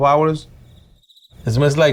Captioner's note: crickets chirping